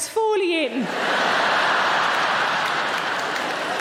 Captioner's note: audience laughing; audience clapping